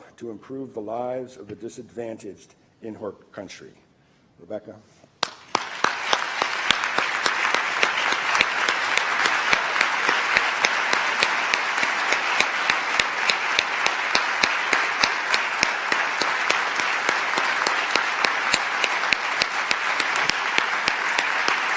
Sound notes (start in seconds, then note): 5.3 applause